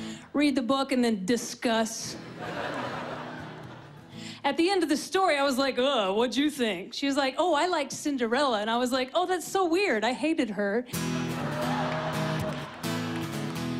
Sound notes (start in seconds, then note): 2.2 laughter; 10.9 riffing